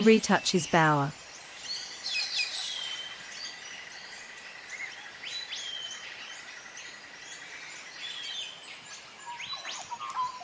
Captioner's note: birds sounds and chirps